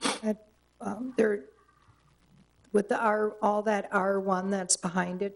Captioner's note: stutters